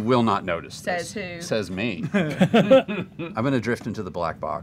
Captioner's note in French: rires